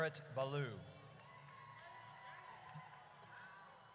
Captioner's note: audience cheers